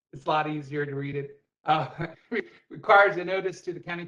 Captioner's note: laughter